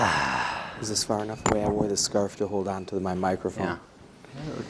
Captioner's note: sighs